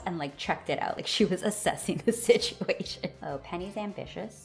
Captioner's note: laugh